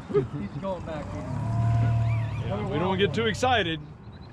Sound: chuckling; boat engine idling

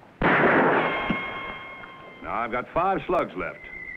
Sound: gunshot booming

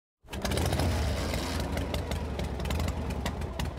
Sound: motorcycle engine

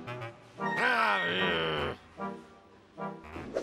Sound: growls

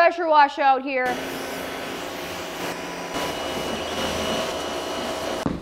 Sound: pressure washer whirs

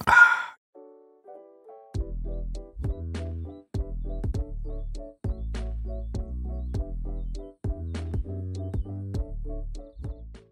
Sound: hong sound

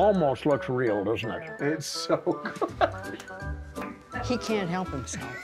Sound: laughing

